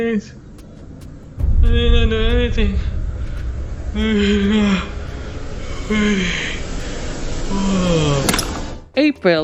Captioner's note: yawns